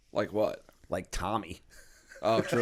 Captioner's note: laughter